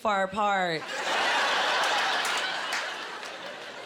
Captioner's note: laughing